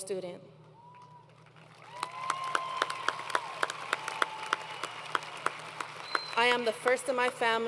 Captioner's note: applause